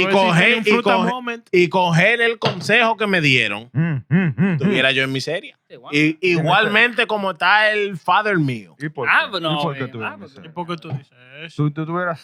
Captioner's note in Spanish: Hablando en idioma extranjero